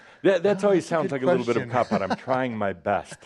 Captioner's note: he chuckles